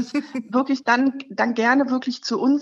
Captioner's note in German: lacht